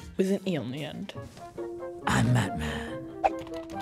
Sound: gruff voice

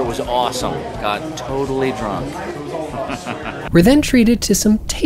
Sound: chuckles

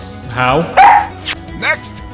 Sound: Missile barks!

